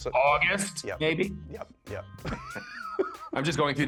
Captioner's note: laughs